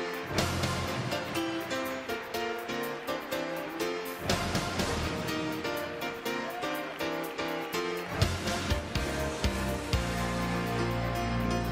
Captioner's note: applause